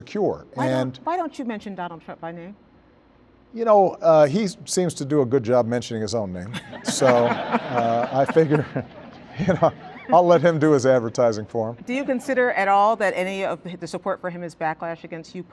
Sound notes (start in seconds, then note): 6.5 laughter